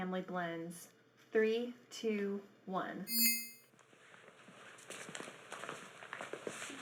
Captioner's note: soft dinging